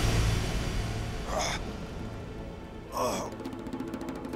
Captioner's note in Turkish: İnleme sesi